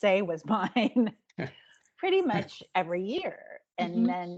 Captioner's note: chuckling